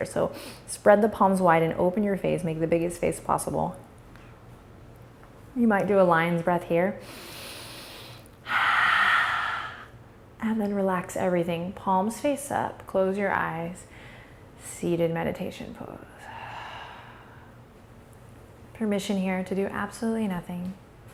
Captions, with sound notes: So spread the palms wide and open your face make the biggest face possible. You might do a lion's breath here. (inhale) (exaggerated exhale) And then relax everything, palms face up, close your eyes, seated meditation pose. Permission here to do absolutely nothing.